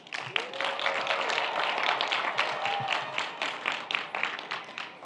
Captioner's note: audience applauds